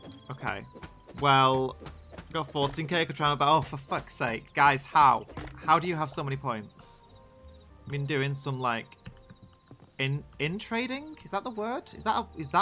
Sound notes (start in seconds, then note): none